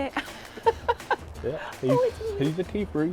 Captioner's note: laughter